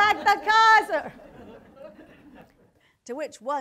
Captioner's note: audience laughter